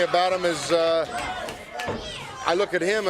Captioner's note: crowd chatter